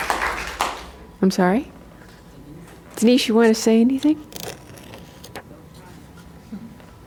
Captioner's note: applause